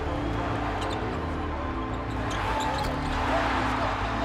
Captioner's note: cheering, commentary